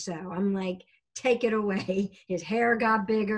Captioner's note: laughing